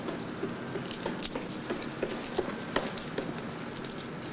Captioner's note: footsteps tapping